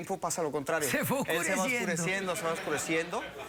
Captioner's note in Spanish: risas